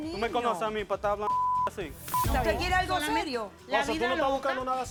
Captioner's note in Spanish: Bip